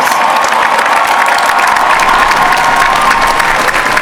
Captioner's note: applause